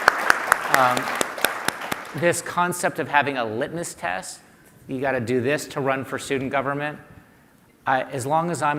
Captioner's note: applause